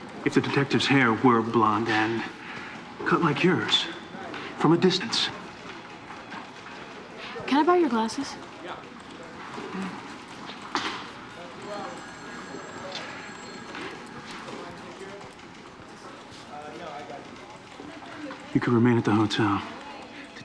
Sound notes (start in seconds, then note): 11.6 phone ringing